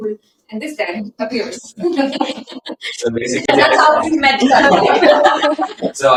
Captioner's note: laughter